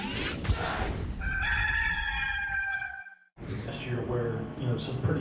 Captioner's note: rooster crowing